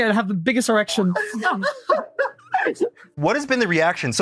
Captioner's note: cackles